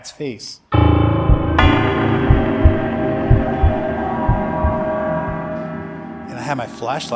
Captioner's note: ominous music; heart beating